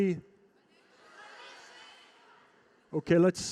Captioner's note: crowd shouting